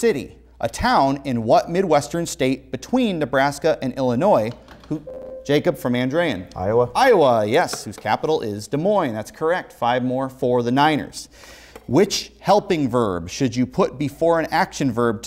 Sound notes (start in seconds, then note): 4.9 beeping